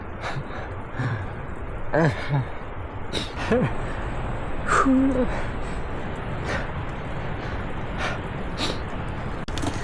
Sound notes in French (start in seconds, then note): 2.3 Sanglots